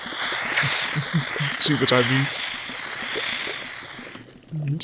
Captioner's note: Snape chuckles